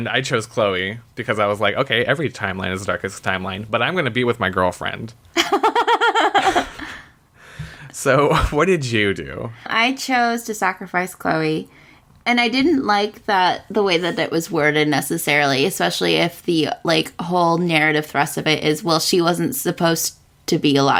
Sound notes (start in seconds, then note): 5.4 laughs